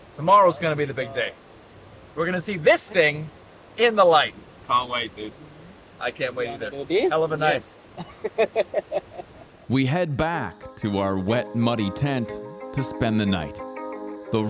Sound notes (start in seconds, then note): 8.0 chuckles